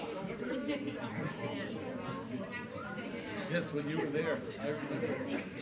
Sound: audience talks amongst themselves

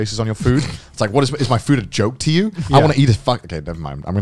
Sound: laughing

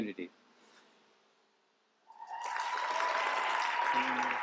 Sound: applause

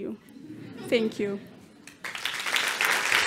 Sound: applause

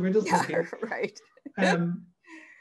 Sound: laughing

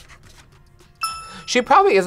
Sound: bell rings

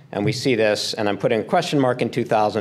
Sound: none

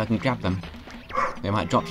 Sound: woof

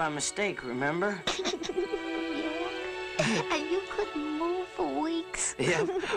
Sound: giggles

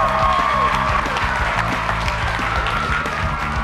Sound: cheers

